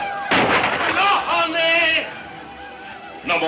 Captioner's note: speaking in foreign language